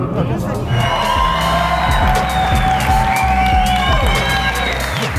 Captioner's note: audience cheering